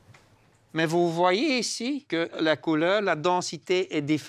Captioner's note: French spoken audio